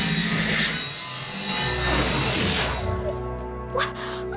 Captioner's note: whoosh